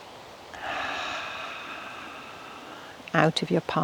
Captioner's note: exhaling